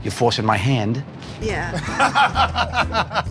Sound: laughter

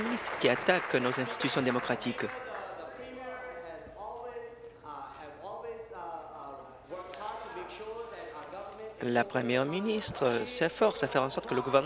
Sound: applause

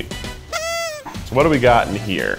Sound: honk

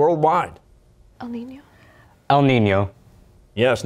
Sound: quietly

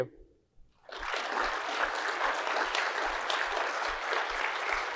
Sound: audience applauds

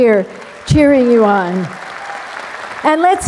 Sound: applause

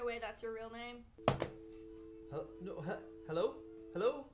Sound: dial tone

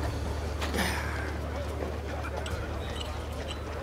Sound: sighs

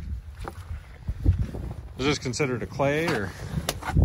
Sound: spade whacking

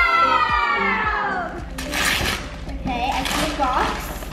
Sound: upbeat music; paper tearing

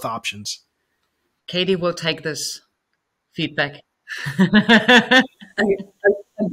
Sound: laughing

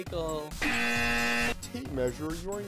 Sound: incorrect buzzer

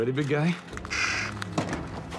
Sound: caw

